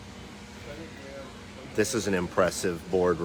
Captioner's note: workers speaking faintly